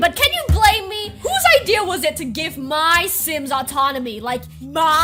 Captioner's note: yelling